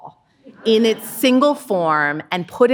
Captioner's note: audience laughing